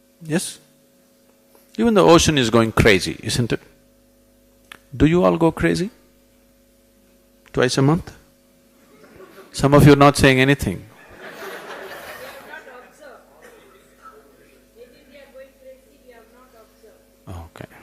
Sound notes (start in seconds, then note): 8.8 few laugh; 10.9 laughter